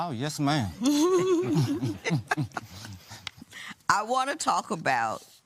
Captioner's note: all chuckling